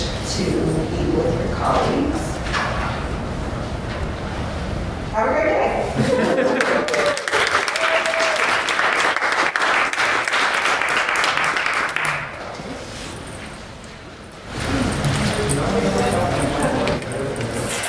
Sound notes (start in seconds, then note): 6.0 laughter, applause, and cheers